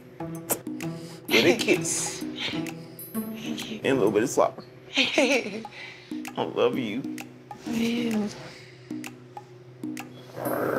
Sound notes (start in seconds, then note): 0.1 smooch; 4.9 laughs